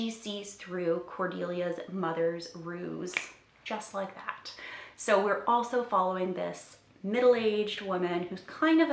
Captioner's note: snaps